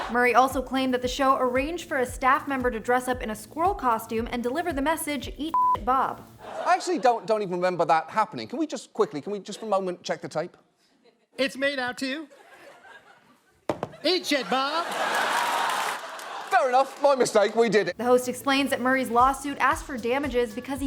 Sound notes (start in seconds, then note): 5.5 beep; 13.9 audience laughing